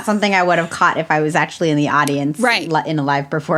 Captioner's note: laughs